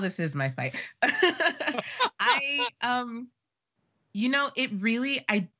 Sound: laughing

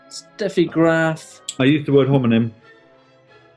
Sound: none

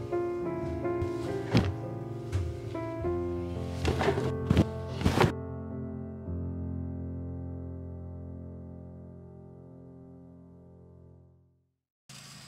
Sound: vacuum cleaner roaring; soft classical music

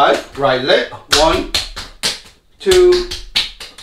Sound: slapping

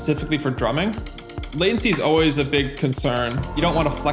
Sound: tentative tapping

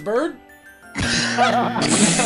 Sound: incorrect buzzer; laughter; incorrect buzzer

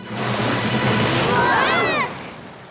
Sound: screaming

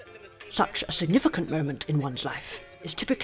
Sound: none

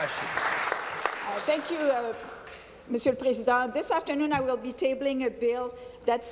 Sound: applause

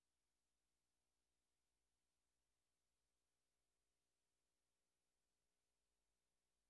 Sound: none

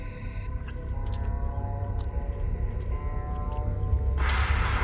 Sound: chews, Chomps; munching Noises

